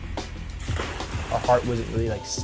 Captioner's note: water splashing